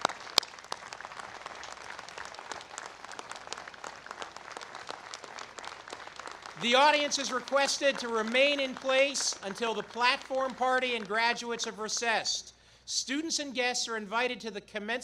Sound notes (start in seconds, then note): 8.8 applause